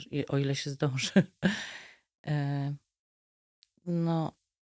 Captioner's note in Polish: śmiech